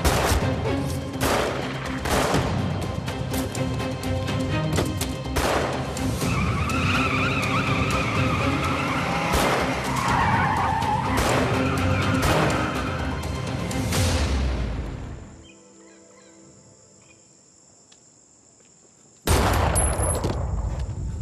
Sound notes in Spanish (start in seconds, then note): 1.1 Disparos; 6.2 Chirrido de llantas; 11.1 Disparos; 19.3 Disparo